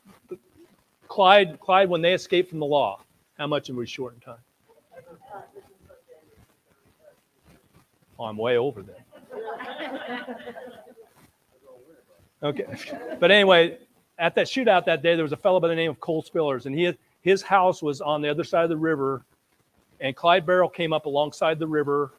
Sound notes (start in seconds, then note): 9.2 audience laughing